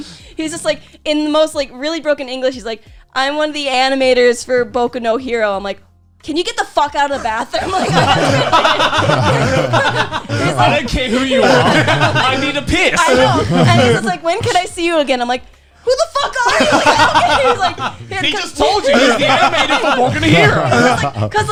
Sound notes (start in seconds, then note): 7.1 laughing